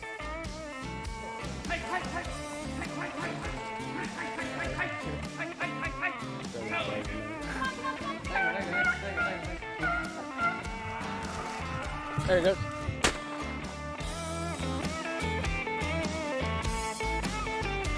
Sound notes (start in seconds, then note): 4.0 muffled yelling; 9.5 dogs barking; 13.0 gun fires